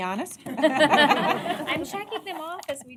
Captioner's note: laughter